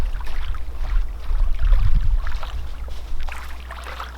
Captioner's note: water lapping